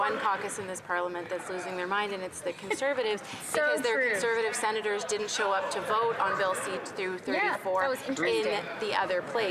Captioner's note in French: voix de l'interprète